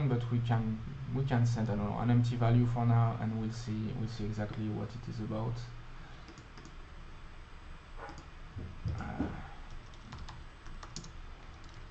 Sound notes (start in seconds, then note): 6.3 typing